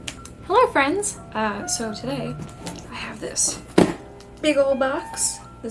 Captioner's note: thunk of hands on box